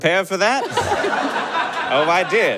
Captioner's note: audience laughs heartily